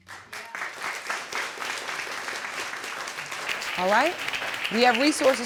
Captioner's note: audience applauding